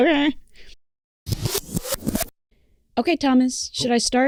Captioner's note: squeal of rewinding tape; pfft